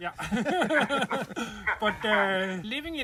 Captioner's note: laughter